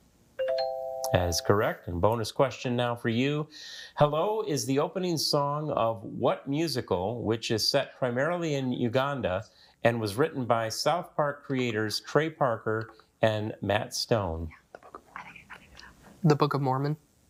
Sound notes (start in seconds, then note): 14.8 group whispering